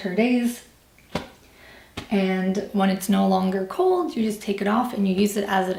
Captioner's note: patting